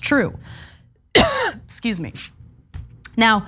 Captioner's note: cough